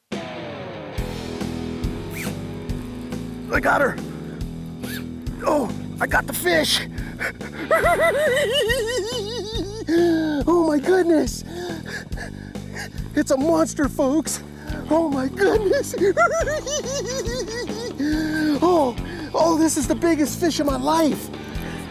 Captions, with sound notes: [rock music] I got her! Oh, I got the fish! [laughs] Oh, my goodness! It's a monster, folks. Oh, my goodness. [laughs] Oh. Oh, this is the biggest fish of my life.